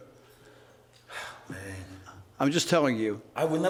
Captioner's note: sighs